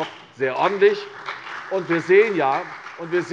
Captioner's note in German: Beifall CDU und BÜNDNIS 90/DIE GRÜNEN